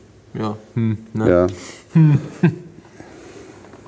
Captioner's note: laughing